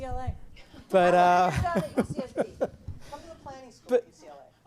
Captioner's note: laughter